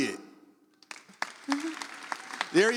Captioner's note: audience applauds